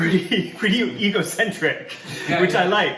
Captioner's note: laugh off screen